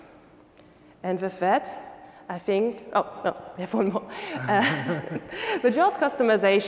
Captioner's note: laughing